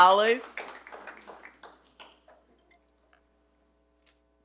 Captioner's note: attendees clap